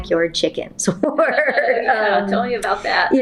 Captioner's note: laughs